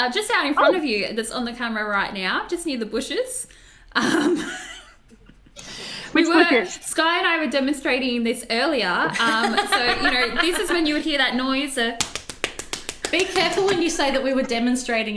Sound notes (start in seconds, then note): 4.0 laughs; 11.8 tapping